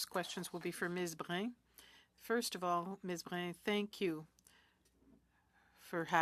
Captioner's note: speaking French